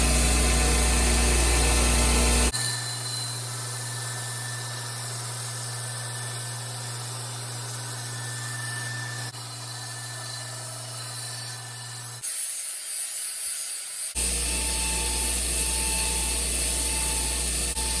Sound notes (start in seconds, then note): 2.1 grinding noise